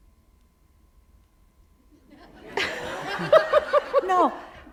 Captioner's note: laughter